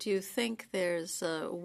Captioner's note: speaking French